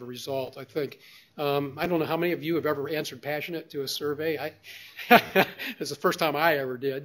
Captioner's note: laughs